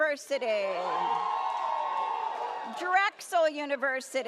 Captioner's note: audience cheers